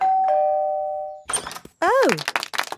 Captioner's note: doorbell ringing; crowd applauding